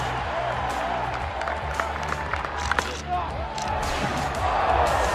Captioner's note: players applaud; crowd cheers